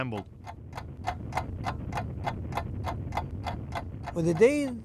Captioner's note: loud ticking of a clock